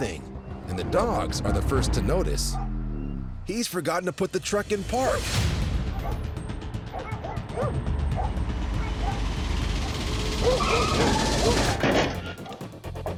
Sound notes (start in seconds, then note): 5.1 dogs barking; 5.1 suspense music; 9.6 tires screeches